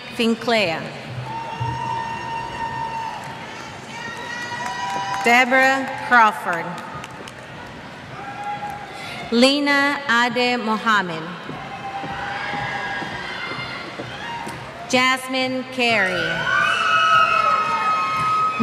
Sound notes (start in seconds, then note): 1.2 cheers; 11.6 cheers